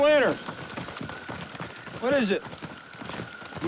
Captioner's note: footsteps stomping